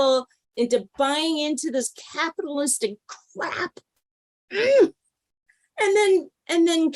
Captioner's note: grumbles